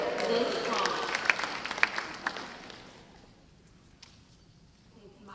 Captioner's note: audience applause